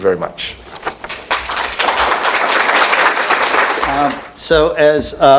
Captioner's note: applause